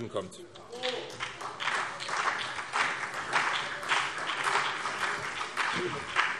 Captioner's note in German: Beifall